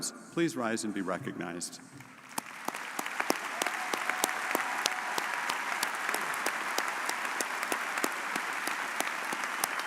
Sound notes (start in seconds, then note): 2.2 audience cheering and applauding